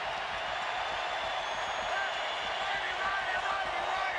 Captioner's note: crowd cheering